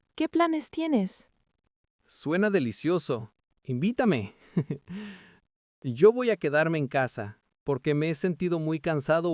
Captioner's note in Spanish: risas